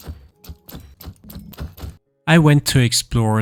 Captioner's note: sword thwacking